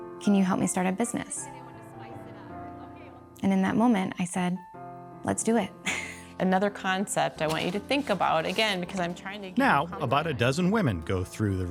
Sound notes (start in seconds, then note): 5.8 lighthearted music; 5.9 chuckling